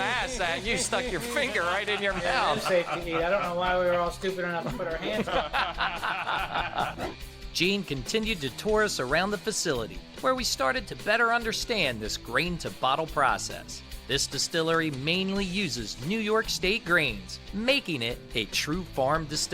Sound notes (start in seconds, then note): 5.0 laughs